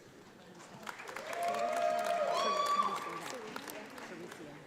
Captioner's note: audience applauds